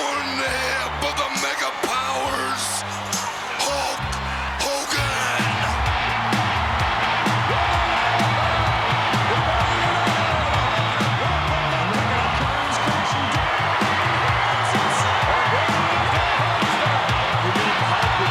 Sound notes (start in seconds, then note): 5.6 audience cheering; 7.7 thrilling music